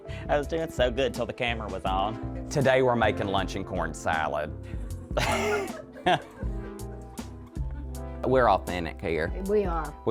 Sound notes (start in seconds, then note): 5.2 laughs